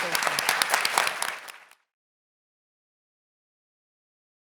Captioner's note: audience clapping